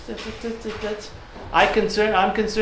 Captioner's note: stuttering